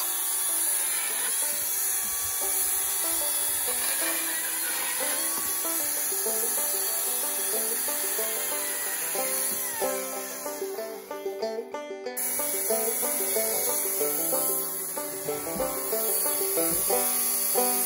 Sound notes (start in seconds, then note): 4.3 chainsaw's sound